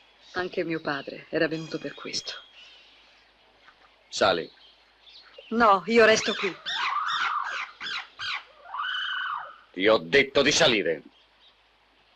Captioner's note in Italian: urlo